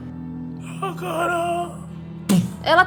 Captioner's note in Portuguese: Grunhido